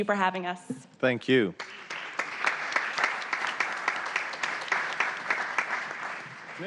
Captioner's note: applause